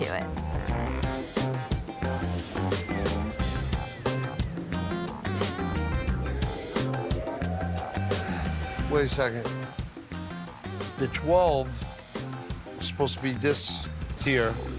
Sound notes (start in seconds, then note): 0.1 lively music continues; 2.1 steam hissing